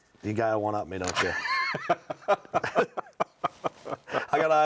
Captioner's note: laughs